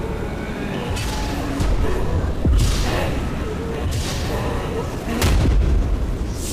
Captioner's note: soft ominous music; monster rasping softly